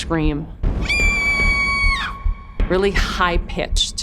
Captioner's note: scream